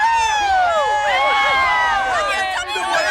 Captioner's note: applause